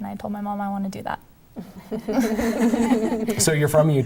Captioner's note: laughing